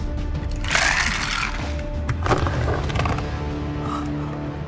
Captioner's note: container scraping; ominous music